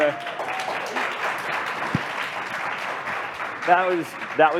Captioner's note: applause